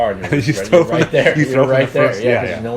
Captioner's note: laughing